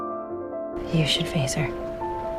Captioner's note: voiceover